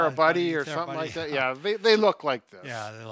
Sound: laughing

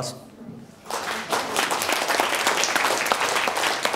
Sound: clapping

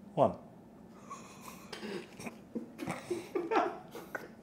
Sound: group laughing

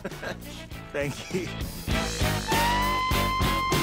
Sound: laughing; jazzy music

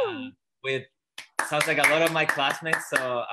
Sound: clapping

